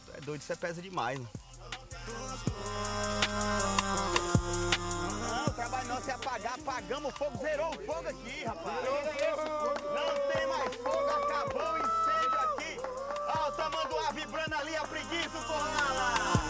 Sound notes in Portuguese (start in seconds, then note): 8.5 aclamando